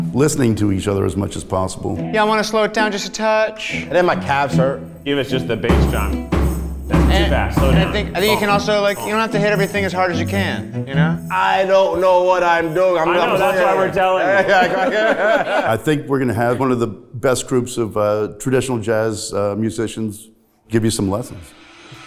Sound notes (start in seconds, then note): 13.0 all laughing